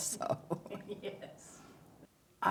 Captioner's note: chuckles